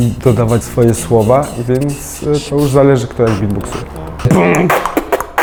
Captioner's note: beatbox